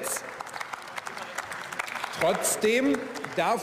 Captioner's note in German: Beifall